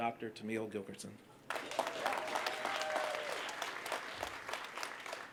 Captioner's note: applause